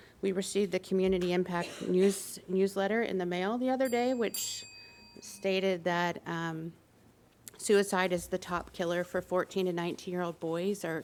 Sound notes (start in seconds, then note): 3.8 bell dings